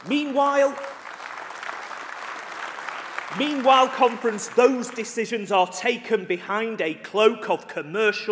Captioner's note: applause